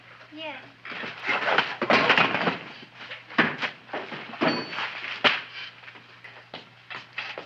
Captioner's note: sweater thumping; chair rattling; feet thumping